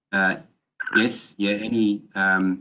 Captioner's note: electronic tone beeping